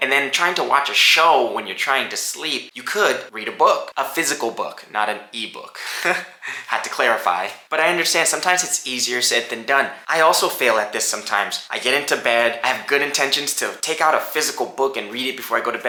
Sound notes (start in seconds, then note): 5.7 laughs